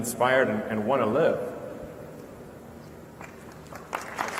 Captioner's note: applause